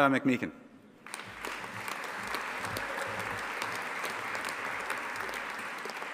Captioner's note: audience applauding